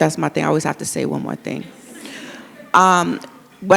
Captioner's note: audience laughs